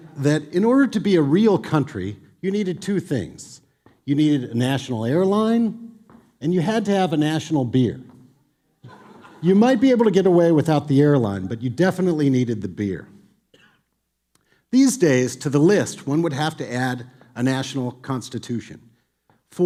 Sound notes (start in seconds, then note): 8.8 audience laughs